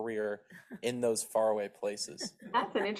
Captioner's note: laughs